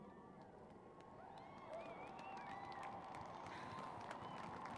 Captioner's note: cheering; applause